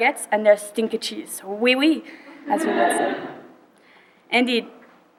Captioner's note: laughter